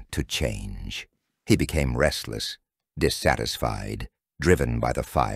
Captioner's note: calmly